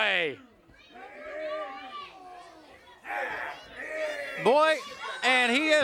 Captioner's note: wrestlers groaning and grunting